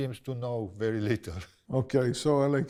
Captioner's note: chuckles